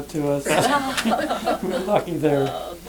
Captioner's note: laughter